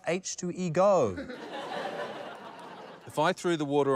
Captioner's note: laughter